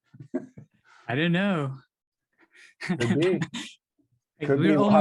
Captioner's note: laughs